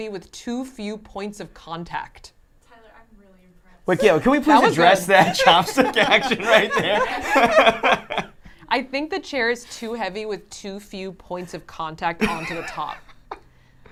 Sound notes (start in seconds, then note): 7.0 laughs